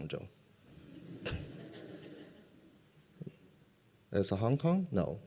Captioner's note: laughter